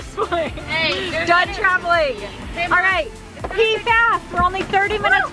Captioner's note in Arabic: يضحك